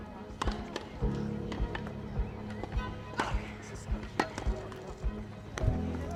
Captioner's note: thudding of tennis balls